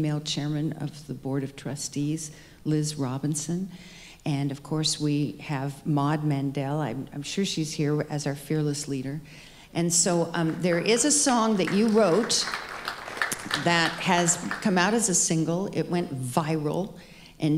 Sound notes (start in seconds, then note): 12.6 audience applauding